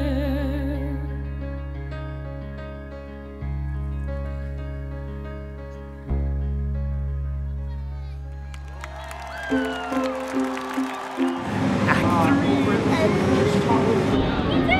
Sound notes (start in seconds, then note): 0.1 gentle music; 7.7 crowd cheering